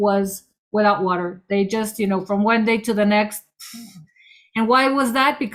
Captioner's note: blows air